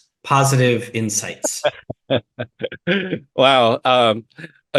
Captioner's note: chuckles